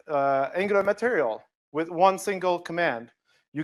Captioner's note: none